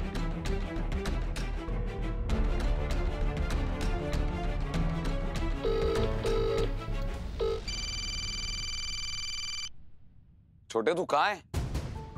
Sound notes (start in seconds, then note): 1.9 pensive music playing; 5.6 phone ringing